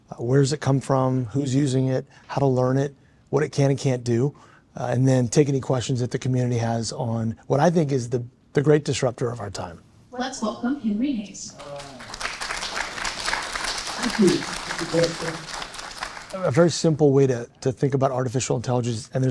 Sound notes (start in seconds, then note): 11.5 audience clapping